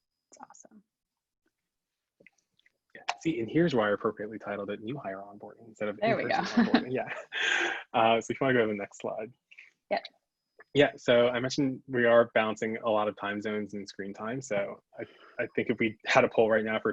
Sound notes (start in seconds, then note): 6.1 laughs